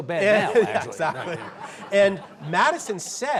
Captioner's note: audience laughs